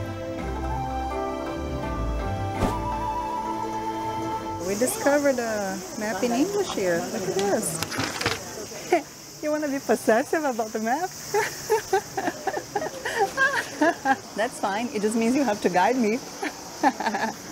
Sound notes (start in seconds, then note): 11.2 laughs